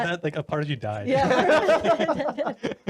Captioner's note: laughing